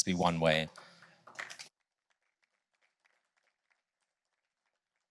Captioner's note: applause